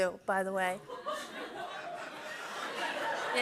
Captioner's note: laughter